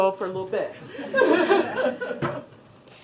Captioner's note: laughter